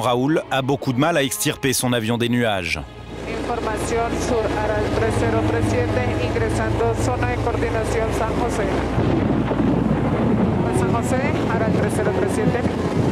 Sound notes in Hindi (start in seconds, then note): 4.9 स्पैनिश बोलते हुए